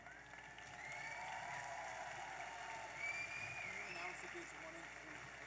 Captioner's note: audience applauding and cheering